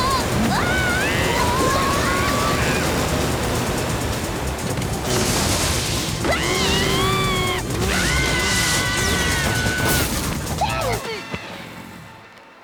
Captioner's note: grunt; crash; yelling